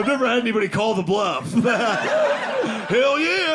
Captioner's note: audience laughing